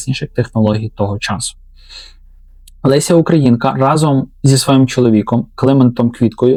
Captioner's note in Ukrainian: сопіння